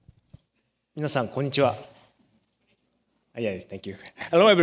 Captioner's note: japanese